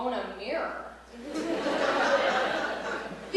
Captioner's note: laughter